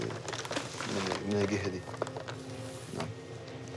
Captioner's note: pages crinkling